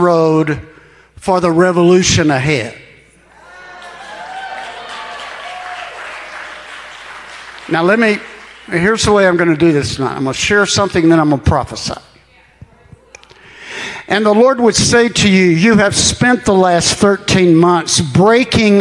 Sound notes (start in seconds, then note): 3.4 congregation applauding